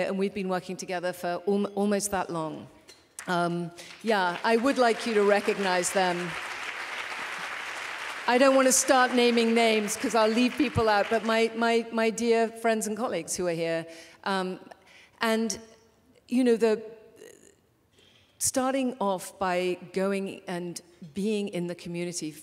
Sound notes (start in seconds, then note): 6.2 applause